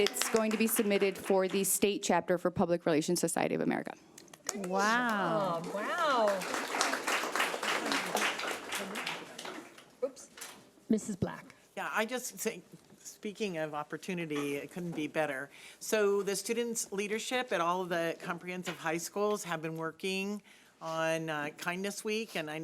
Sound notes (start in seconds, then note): 6.6 audience clapping